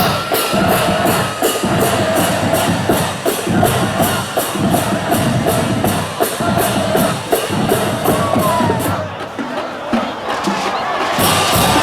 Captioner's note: cheering and drumming